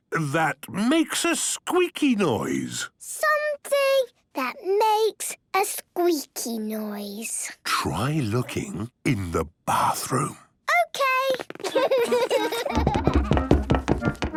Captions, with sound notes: ...that makes a squeaky noise! - Something... that makes.. a squeaky noise. - (whispering) Try looking... in the bathroom. - Okay! - (Peppa and George laughing) - (loud footsteps)